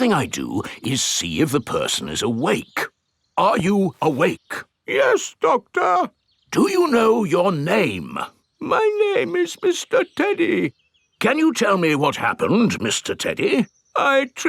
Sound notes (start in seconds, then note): 5.2 in teddy's voice; 7.0 in normal voice; 9.1 in teddy's voice; 11.6 in normal voice